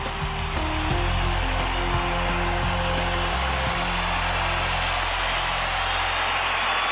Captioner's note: crowd cheers